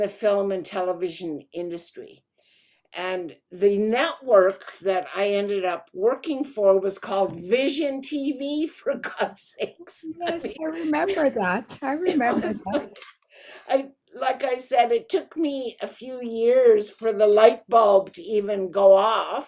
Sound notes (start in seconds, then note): 11.9 laughing